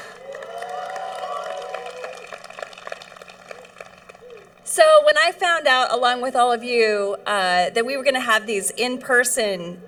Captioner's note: cheering